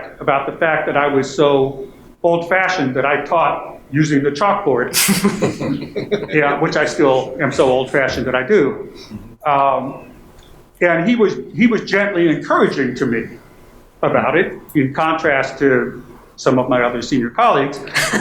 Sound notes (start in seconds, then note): 5.0 panel chuckling